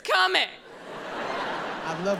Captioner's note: audience laughs